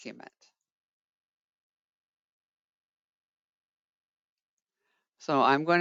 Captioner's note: 5 seconds pause